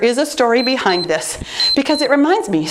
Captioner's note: timer beeps